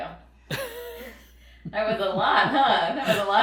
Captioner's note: laughing